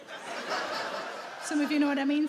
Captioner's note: audience laughing